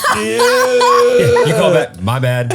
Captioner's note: all laughs